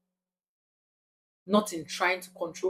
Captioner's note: paause